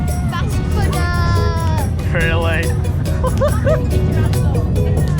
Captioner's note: laughs